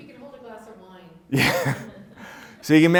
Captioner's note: laughs